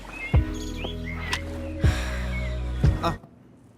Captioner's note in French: soupir de bien-être